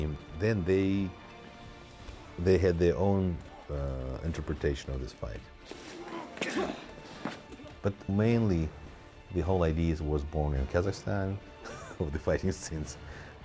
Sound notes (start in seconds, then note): 5.9 grunts